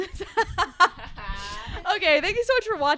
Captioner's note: everyone chuckles